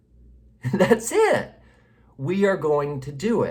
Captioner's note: laughing